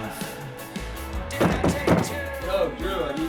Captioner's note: knocking on door